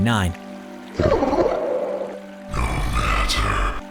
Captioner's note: gurgles